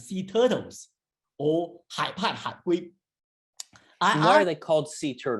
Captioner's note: speaking in foreign language